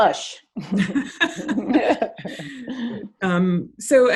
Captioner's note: both laughs